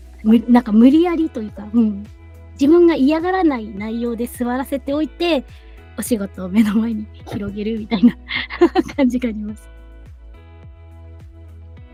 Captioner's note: laughs